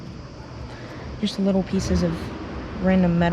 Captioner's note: none